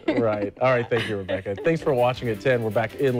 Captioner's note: laughter